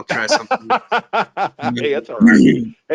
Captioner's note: laughs